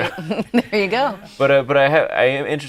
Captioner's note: laughing